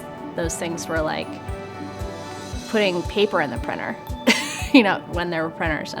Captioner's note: chuckles